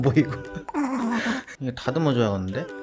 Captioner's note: laugh